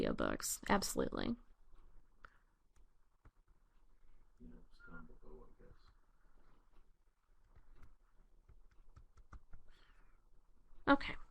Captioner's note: pause